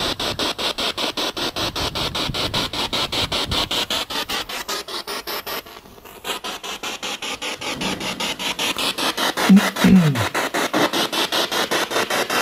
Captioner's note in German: Noise of the spiritbox in the background